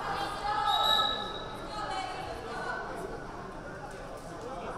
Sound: whistle blaring

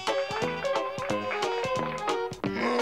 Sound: clapping

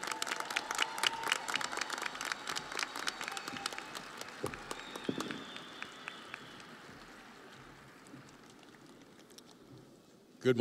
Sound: audience applauding

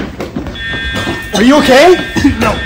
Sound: fire Alarm

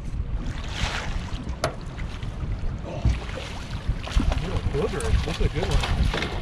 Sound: fish splashing

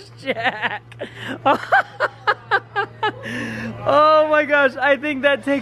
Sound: laughing

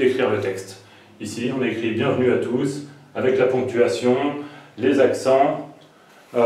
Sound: french

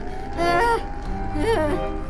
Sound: groans in terror

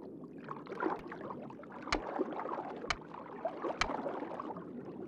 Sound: seal clicking

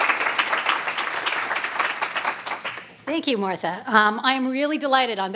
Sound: applause

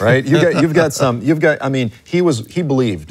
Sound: laughs

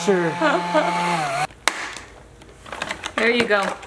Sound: vacuum whirs loudly; laughs

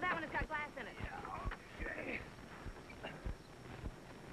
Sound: grunting

